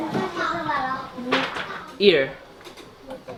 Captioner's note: foreign language